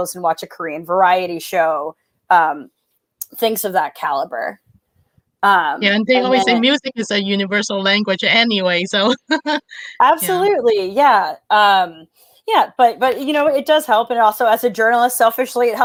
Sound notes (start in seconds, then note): 8.9 laughs